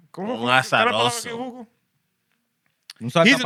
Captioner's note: speaking Spanish